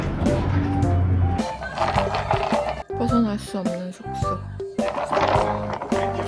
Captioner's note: oink oink oink gurgle oink